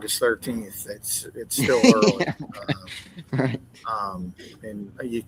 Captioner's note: laughing